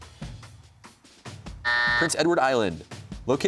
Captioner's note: buzzer sounds